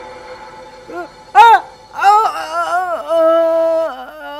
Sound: imitates groaning

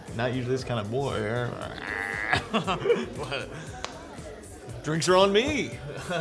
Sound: growls

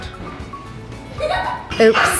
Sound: giggles

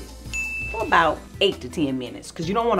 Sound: winking sound

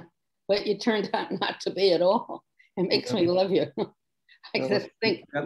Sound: laughs

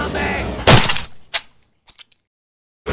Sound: splat sound

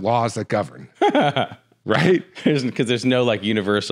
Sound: laughs

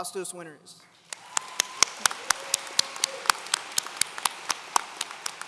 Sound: audience applauds

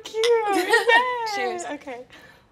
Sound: cups clinking; giggling cutely

